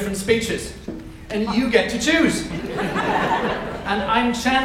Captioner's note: audience laughs